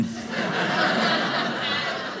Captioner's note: audience laughing